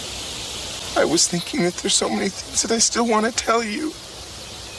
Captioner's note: choked up